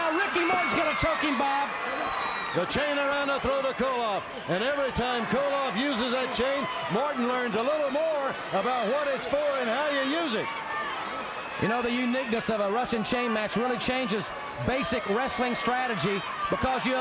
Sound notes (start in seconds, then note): 11.1 crowd chatter